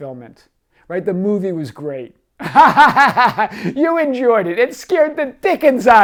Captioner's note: laughs